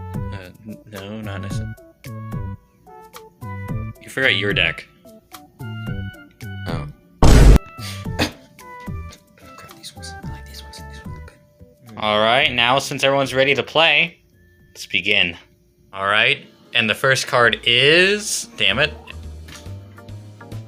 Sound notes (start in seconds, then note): 19.5 card Flip